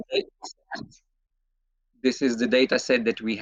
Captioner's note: audio distorts